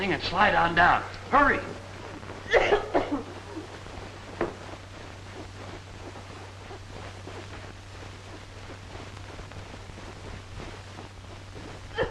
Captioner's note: coughing